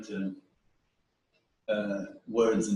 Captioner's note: pause